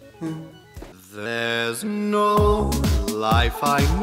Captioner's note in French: voix robotique et musique de fond de " "